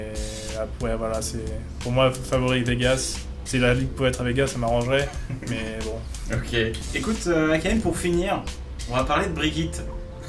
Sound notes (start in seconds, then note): 5.0 laughs